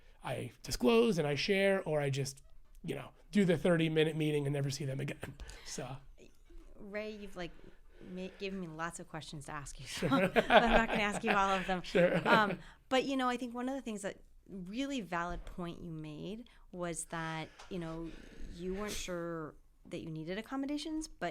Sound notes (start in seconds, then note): 10.0 laughter